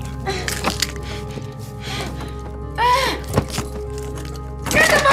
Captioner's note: groans